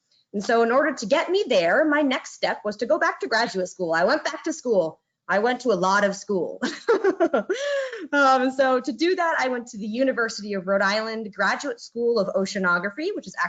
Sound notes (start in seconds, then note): 6.6 laughing